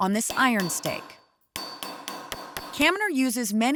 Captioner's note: hammering